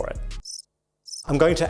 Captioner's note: birds chirping